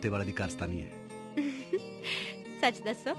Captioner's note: chuckling